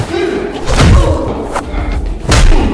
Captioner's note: air whooshing; men grunting; Chris groans; fist thuds; foot thuds; fist thuds